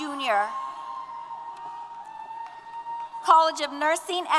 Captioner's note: applause & Cheers